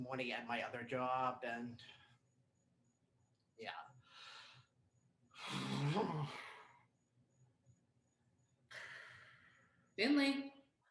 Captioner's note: sighs